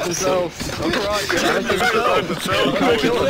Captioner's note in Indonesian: Ketawa